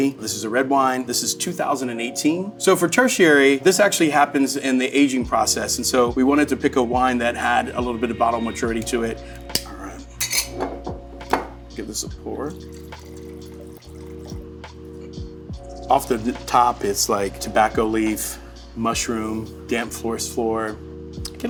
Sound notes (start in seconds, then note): 10.1 bottle clinking; 12.3 wine trickling; 13.1 upbeat music